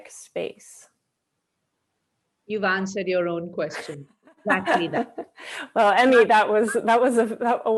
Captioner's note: laughs